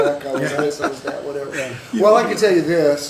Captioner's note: laughter